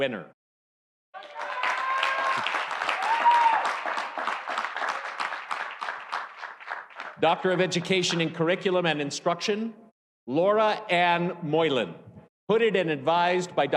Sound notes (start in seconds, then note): 1.1 audience cheering; 1.1 audience applauding